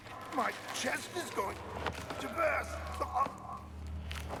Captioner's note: pained voice; chokes